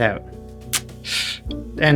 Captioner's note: tsk sound